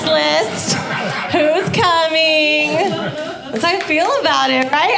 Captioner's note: audience laughing